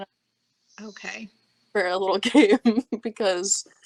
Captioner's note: laughing